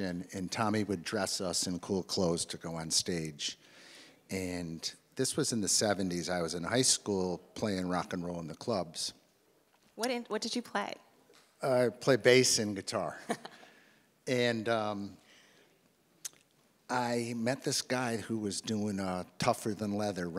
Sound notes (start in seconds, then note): 13.1 laughs